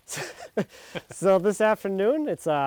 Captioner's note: both laughing